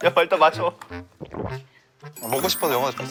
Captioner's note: gulp